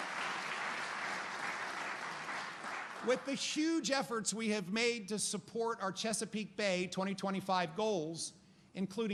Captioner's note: applause